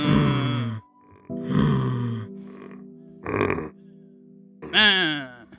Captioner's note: grunting